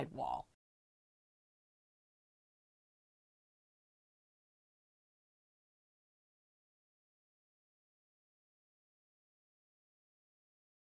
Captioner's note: no Sound Present